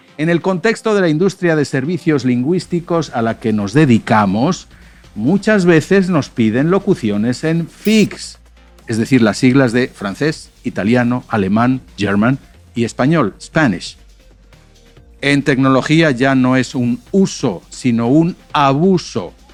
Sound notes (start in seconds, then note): 11.9 German; 13.4 Spanish